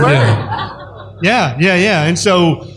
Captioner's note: laughter